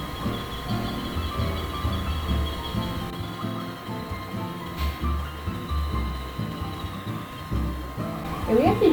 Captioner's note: even more chirping